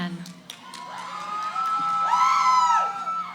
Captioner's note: cheering